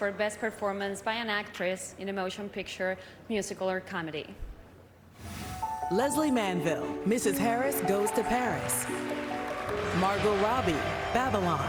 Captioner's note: applause